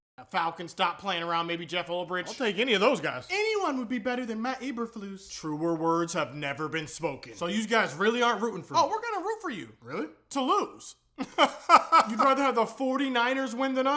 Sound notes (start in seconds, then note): 11.2 laughing